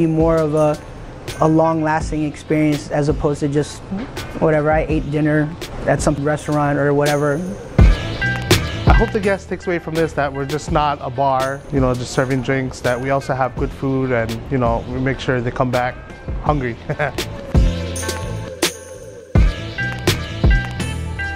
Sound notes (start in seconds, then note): 7.5 chill, groovy rhythmic music; 16.7 laughs; 17.2 chill, groovy rhythmic music